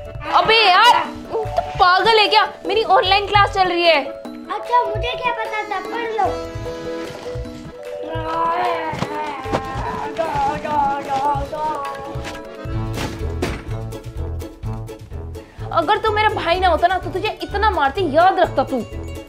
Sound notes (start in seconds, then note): 6.8 kid is Shouting